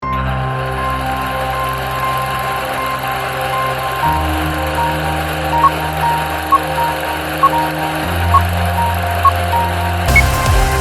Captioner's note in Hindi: तालियाँ